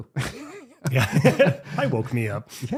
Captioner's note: both laughing